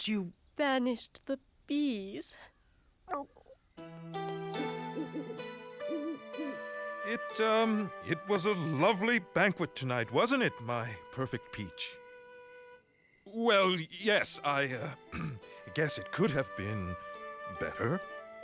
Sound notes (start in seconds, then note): 0.2 gulps; 4.1 owl hoots